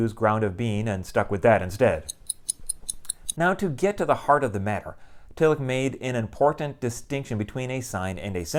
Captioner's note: clock ticking